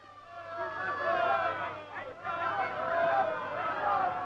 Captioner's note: crowd shouting